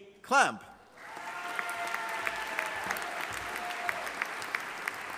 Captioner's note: audience applauding